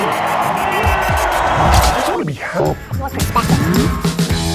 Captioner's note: crowd cheers